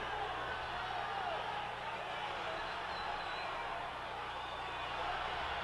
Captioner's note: audience chattering